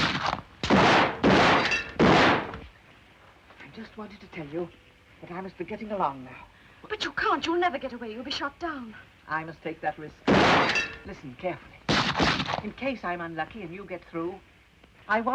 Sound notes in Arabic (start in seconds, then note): 0.0 اطلاق نار; 10.2 طلق ناري وزجاج يتحطم; 14.5 طلقات نارية